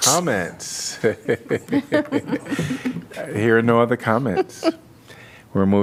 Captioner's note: laughter